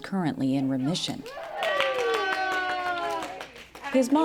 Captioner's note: cheering and applause